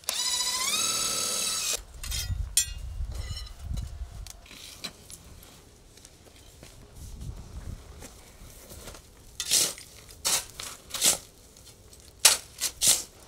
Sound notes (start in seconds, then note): 0.2 machine revving; 9.8 shovel scraping